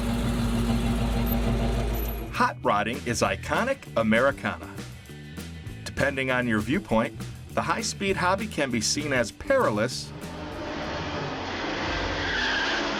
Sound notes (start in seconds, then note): 10.1 engines revving; 12.2 dramatic music; 12.2 tires screeching